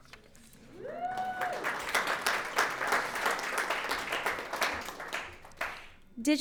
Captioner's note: audience applauds